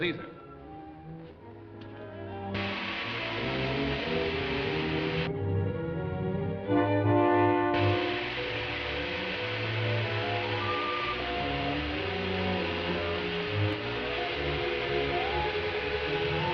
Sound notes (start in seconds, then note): 0.3 dramatic music; 2.5 gas hissing